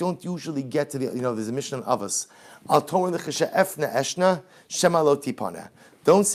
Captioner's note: Hebrew